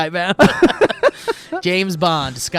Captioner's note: guys laughing